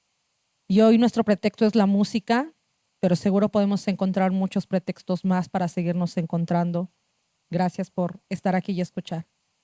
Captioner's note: speaking Zapotec language